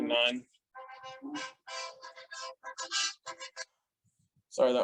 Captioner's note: phone ringing